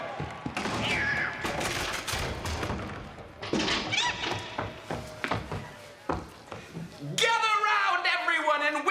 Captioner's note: cheers and applause